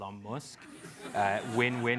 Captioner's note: laugh